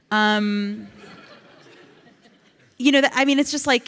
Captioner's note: audience laughs